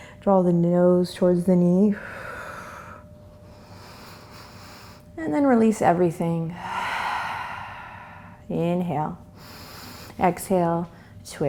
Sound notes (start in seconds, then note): 2.0 exhales; 3.5 inhales; 9.4 exhales